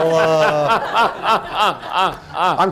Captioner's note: laughter